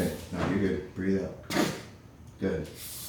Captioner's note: breath escapes